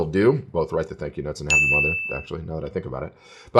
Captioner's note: beeps